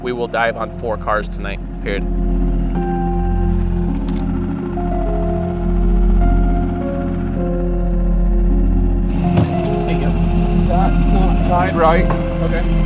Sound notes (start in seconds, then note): 2.9 boat whirring; 2.9 mysterious music